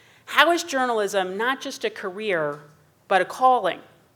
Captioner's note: none